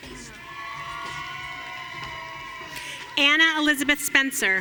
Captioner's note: audience cheering